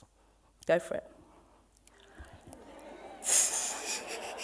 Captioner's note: audience chatter